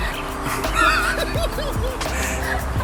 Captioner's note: they start laughing